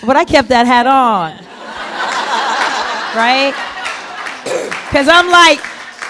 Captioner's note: laughter